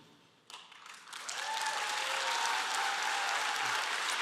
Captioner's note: applause